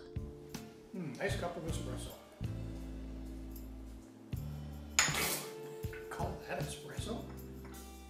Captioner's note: spitting